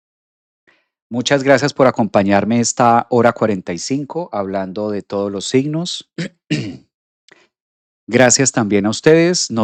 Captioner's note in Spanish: carraspeo